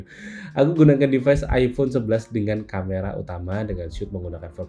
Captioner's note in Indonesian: terkesiap